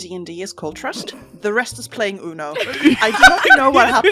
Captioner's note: laughter